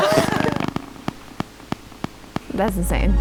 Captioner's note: laughing; static-y click rhythm